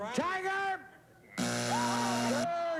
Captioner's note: buzzer